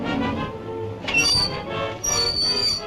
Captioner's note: brakes squealing